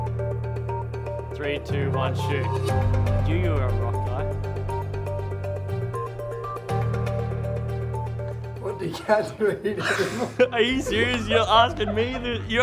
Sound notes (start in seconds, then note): 8.8 laughs